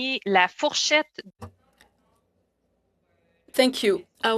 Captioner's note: speaking in French